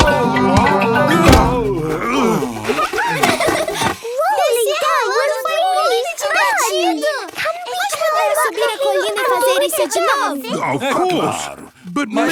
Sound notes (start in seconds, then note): 2.9 laughing